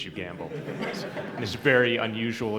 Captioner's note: laughter